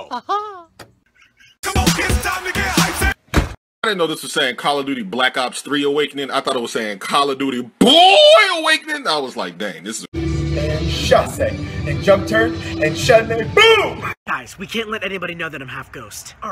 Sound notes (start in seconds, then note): 1.1 small laugh; 3.2 door closes